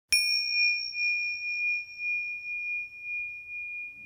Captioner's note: bell rings